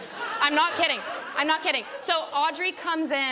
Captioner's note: laughter